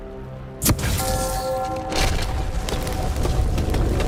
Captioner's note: bell gongs